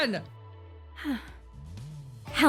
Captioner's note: breath